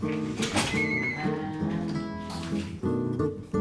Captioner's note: scurrying